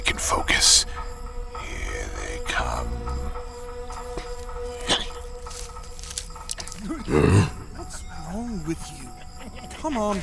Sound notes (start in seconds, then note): 6.3 sounds of footsteps through heavy brush, splatting ot liquid on flesh; 6.8 grunting